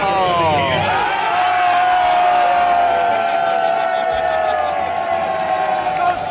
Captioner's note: crowd Erupts